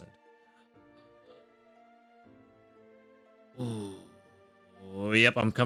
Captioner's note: man groans